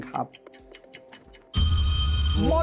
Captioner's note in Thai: เสียงนาฬิกา